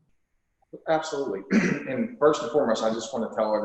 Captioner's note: clears throat